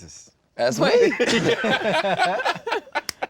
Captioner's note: laughter